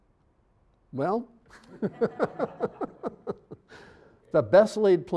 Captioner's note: all laughing